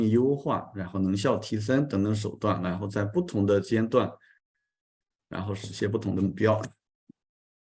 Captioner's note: continues to speak in Chinese